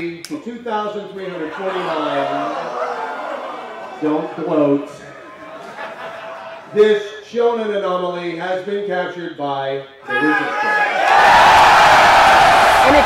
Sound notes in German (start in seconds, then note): 1.4 Menge buht; 5.0 Gelächter; 10.0 Menge jubelt